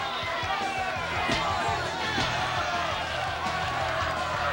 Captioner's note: crowd shouting; fists pounding; crowd cheering